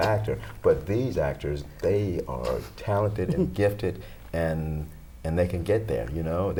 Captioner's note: laughter